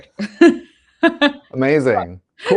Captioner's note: laughs